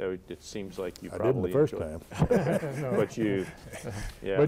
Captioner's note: laughter